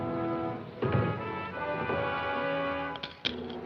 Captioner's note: door Closes